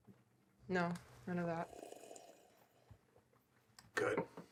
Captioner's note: Bhatt slurping